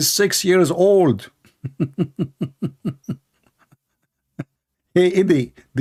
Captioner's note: Ketawa